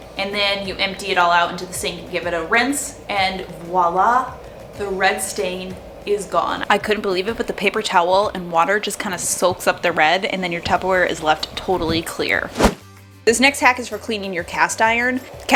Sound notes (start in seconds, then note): 12.3 whooshing